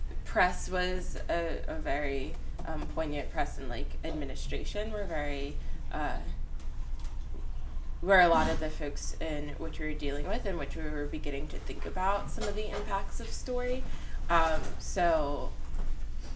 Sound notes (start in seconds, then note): none